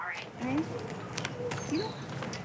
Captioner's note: chatter